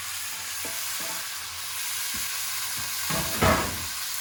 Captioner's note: sizzling